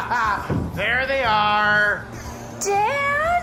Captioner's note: laughter